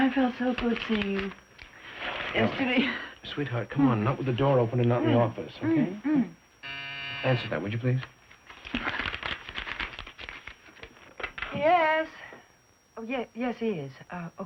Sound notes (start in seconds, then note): 3.0 laughs; 6.6 buzzer